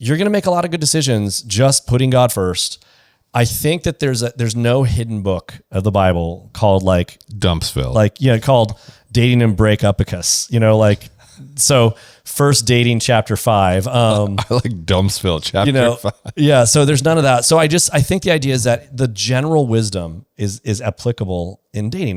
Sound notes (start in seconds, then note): 15.2 laughs